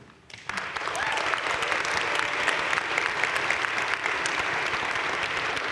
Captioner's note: crowd cheering and applauding